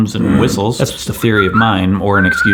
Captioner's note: grunting and whistling